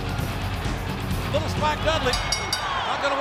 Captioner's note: bell rings